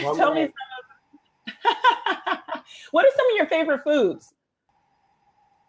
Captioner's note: laughs